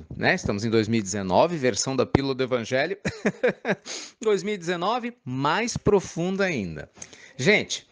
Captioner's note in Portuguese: risadas